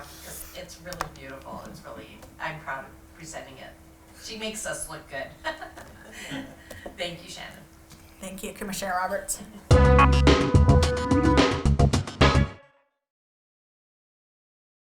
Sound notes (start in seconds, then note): 5.4 laughs; 9.7 outro music